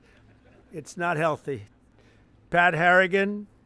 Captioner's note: laughter